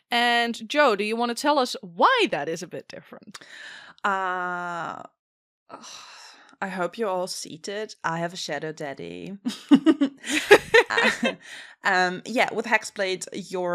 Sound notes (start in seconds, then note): 6.0 sighs; 9.4 laughter